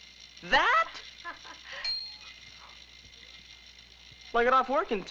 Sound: laughing

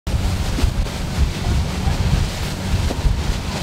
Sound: water splashes

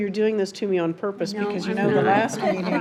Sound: trustees laugh

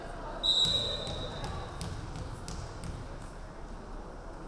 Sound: referee whistling

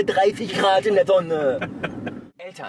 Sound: laughs

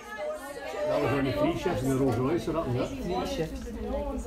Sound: sound of people in the food bank

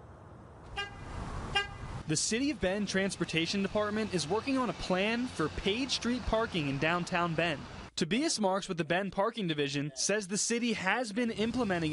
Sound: car honk

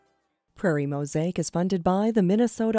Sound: voiceover

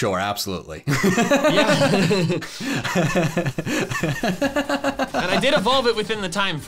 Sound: laughing

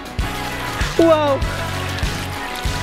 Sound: water rushing

